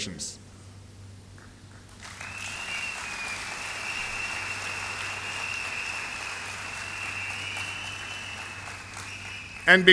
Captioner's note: applause